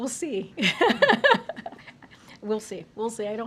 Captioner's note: laughs